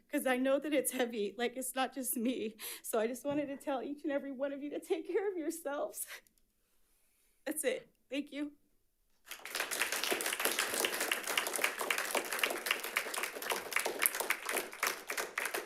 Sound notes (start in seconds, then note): 9.2 audience applauds